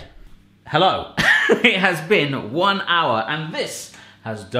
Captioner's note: laughing